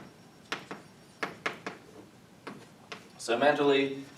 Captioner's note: chalk tapping